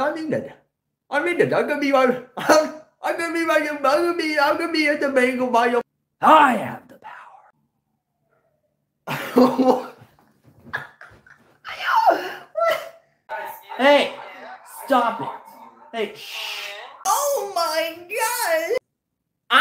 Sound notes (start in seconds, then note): 10.4 insert more laughing